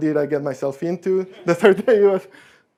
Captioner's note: laughing